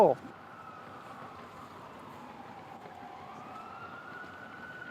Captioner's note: wailing sirens